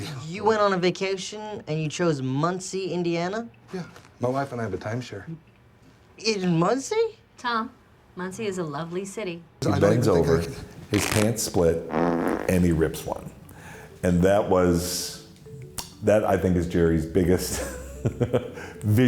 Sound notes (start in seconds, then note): 10.9 pants rip; 11.8 Jerry farts